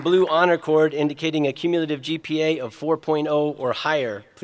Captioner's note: applause